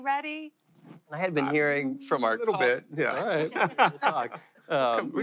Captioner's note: laughter